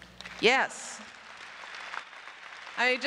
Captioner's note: applause